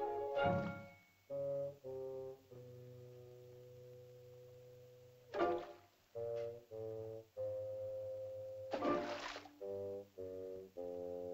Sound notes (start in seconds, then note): 0.0 whimsical music; 5.3 splashing sound; 6.1 whimsical music; 8.7 water splashing; 10.6 whimsical music